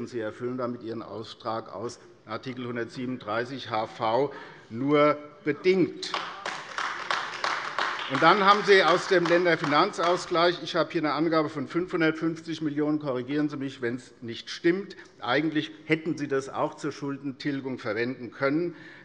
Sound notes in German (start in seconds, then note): 6.0 Beifall AfD - Zuruf CDU: Quatsch! - Weitere Zurufe